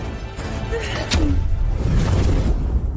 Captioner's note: boom